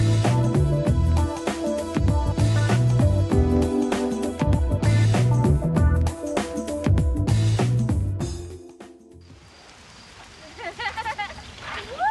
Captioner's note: ĸCHILDREN LAUGHINGĸ